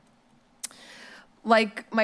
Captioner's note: smacks lips